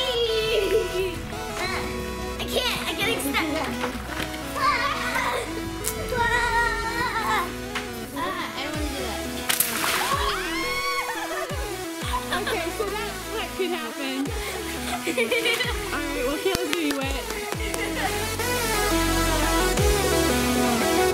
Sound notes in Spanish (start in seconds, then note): 9.9 gritos y risas; 17.6 risa; 18.4 música optimista